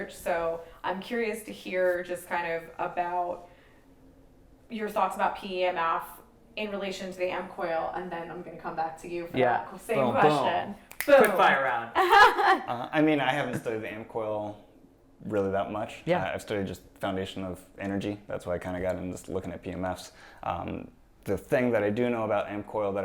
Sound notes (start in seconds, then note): 10.8 snaps fingers; 12.0 laughing